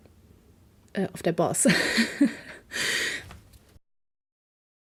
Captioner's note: laugh